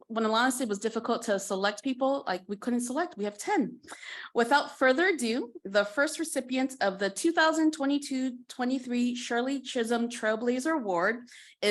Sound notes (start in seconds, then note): none